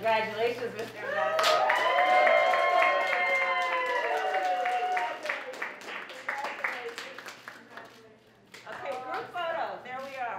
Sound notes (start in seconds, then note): 4.9 applause